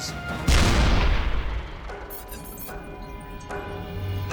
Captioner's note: cannon firing